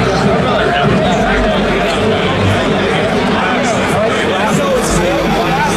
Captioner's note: crowd chattering